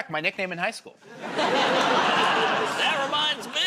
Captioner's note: laughter